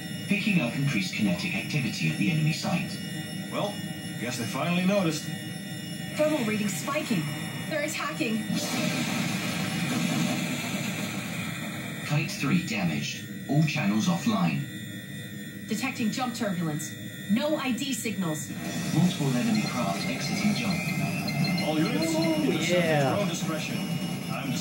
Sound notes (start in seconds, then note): 8.6 explosion